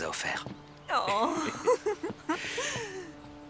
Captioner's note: laughing